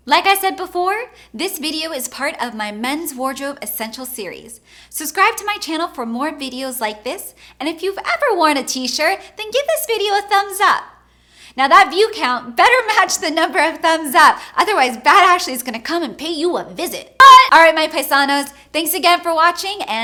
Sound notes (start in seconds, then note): 17.1 yelling